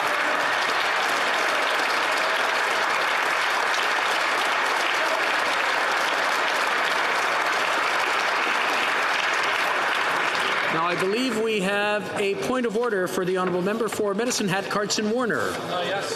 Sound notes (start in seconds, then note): 3.5 applause